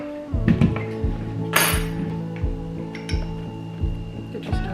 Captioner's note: spoon banging